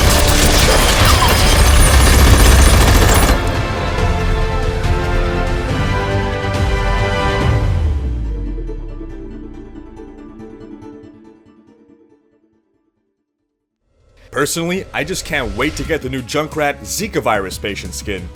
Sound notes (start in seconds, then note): 0.0 gunshots continue; 4.5 gunshots stop